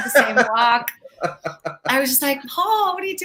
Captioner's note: laughs